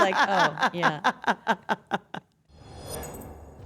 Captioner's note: laugh